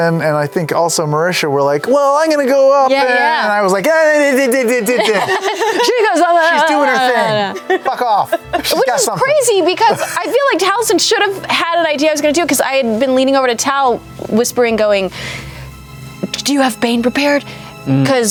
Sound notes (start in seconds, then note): 5.2 shushing noises